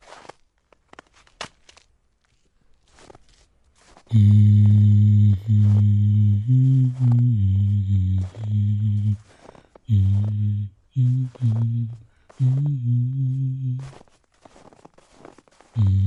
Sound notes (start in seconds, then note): 4.1 preacher hums an unknown hymn under his breath as he carries you to the church